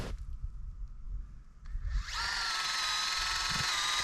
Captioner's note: drill whirring